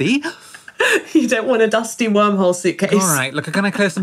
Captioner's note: laughing